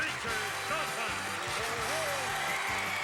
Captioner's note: audience cheering